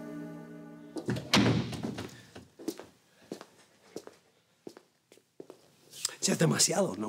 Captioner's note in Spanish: sonido al cerrar la puerta